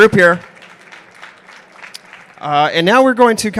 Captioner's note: applause